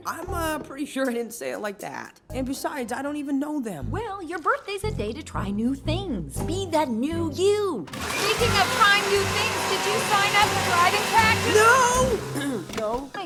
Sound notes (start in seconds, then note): 7.9 blender whirring; 12.1 clears throat